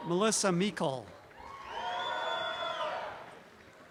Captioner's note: audience cheering